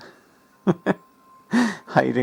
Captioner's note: laughs